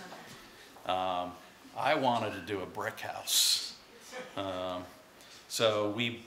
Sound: laughter

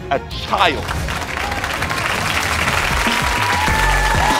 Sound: audience cheers

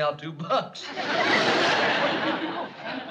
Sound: laughter

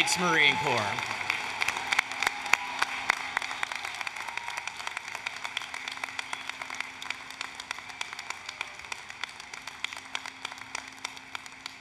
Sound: applause, Cheering

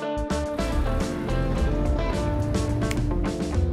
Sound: car engine humming; finger snaps

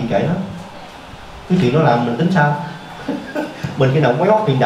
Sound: laughs

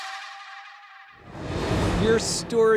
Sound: air whooshing

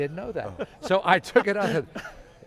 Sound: laughter

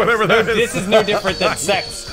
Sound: laughing

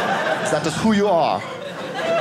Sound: audience laughing

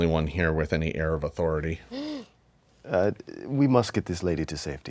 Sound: player gasps

